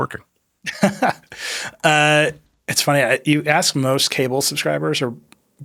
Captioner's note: laughs